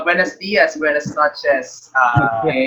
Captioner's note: in Spanish